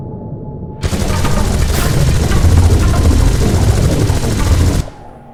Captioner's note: gun fires rapidly